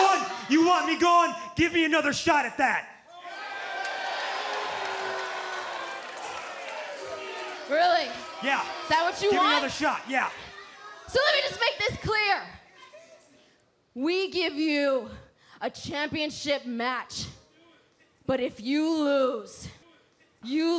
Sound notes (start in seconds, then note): 4.8 crowd cheering